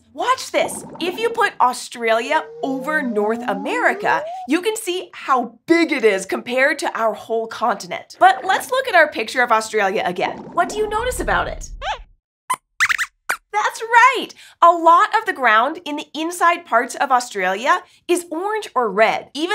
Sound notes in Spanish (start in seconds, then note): 12.3 Squeaks chirría